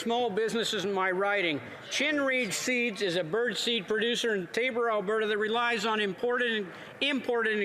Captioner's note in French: voix de l'interprète